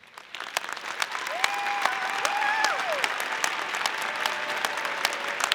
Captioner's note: audience applauding